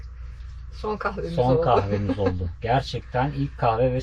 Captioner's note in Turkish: kahkaha